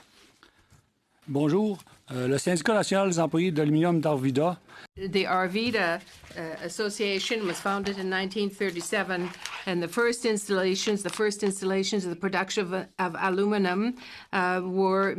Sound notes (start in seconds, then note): 6.8 speaking French